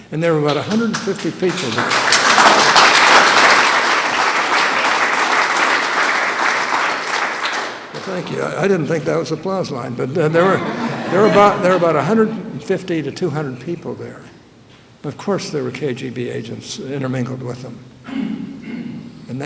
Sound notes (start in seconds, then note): 2.2 applause; 10.2 laughter